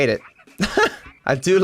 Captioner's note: laughs